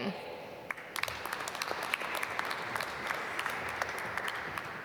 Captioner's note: applause